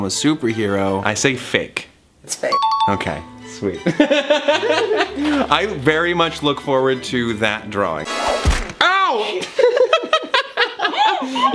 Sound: dinging; laughs

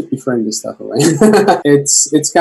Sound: laughs

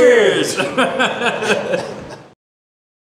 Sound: laughing

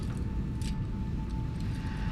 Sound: handcuffs clinking

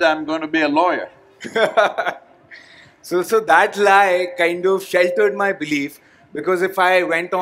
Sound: laughs

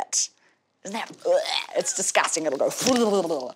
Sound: wretches

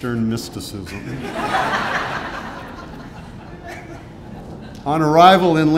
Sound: audience laughing

